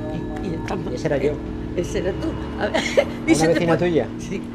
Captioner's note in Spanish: risas